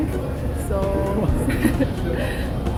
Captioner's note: laaughs